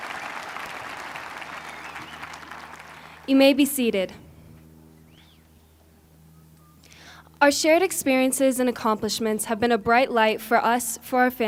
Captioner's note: cheers and applause